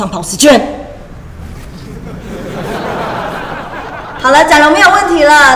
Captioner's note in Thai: หัวเราะ